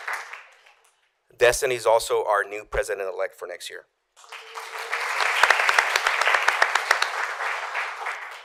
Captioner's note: applause